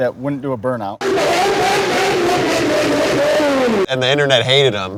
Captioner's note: engine revving